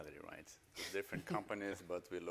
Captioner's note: chuckles